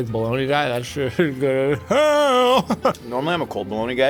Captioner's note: chuckling